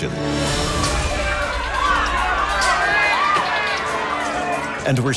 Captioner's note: dramatic music; crowds shouting